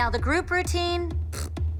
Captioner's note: blows raspberry